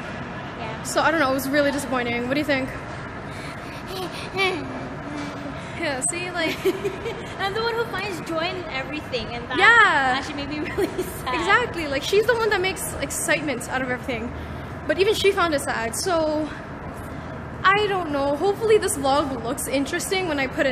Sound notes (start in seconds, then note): 3.3 sad noises; 6.1 laughs